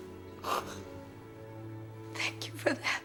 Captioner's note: sobbing